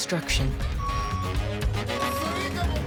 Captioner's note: construction noises; singing in Bambara